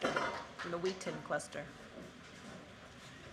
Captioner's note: applause